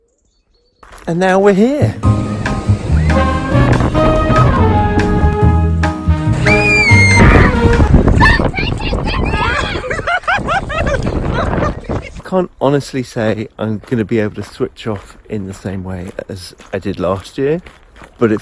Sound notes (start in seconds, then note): 2.2 lighthearted music; 6.4 girl screaming; 8.1 son shouting; 9.6 laughing